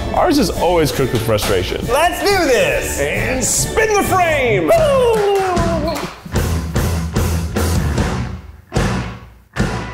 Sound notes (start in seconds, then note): 4.7 trills; 5.6 upbeat music